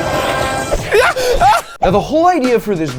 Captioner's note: person yelping